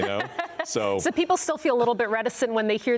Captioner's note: laughs